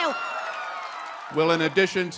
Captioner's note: audience cheering